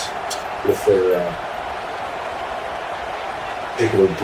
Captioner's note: crowd Noises